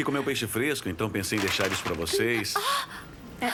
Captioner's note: chicken falls